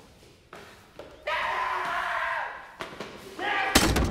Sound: screams

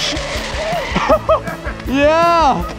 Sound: laughter

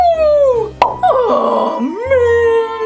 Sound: pop

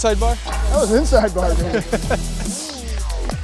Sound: laughing

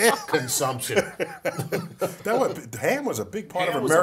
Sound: laugh

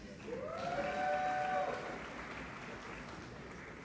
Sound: applauding

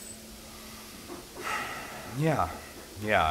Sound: deep sigh

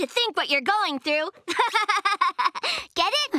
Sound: laughing

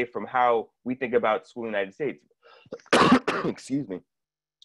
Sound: coughs

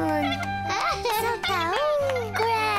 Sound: all cheering

